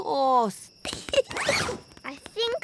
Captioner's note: giggles